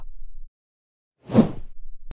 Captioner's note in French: FX - Whoosh - 03